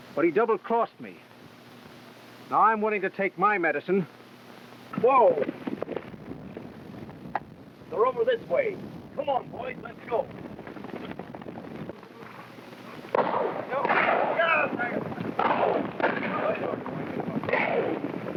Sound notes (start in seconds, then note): 5.3 hooves clopping; 11.1 hooves clopping; 13.0 guns firing; 13.2 cowboys whooping